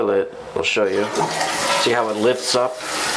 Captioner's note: toilet flushes